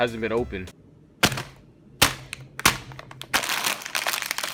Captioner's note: chips crackle